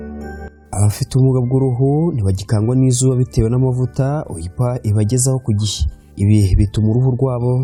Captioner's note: speaking in Kinyarwanda